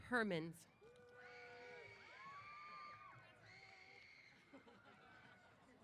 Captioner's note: applause & Cheers